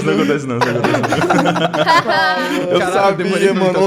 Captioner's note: laughter